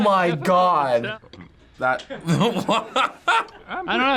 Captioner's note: laughing